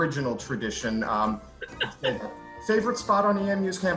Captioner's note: laughs